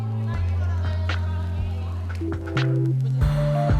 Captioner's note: group chatters